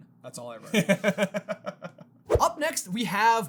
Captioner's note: laughter